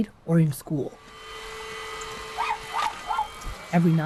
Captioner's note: vacuum runs